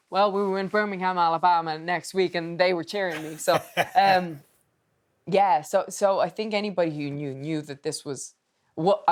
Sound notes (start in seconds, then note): 3.1 Steve laughing